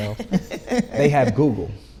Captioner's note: group laughing